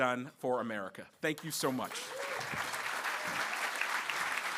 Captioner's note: applause